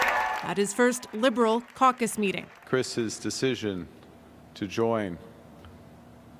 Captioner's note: applause